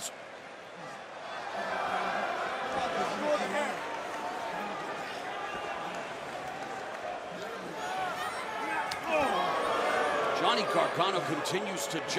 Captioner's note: crowd chatter